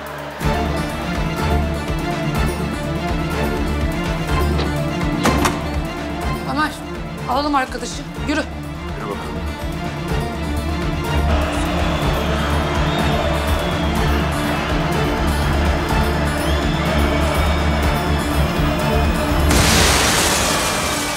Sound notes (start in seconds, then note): 0.2 tension music rises; 10.5 chants; 19.4 explosion sound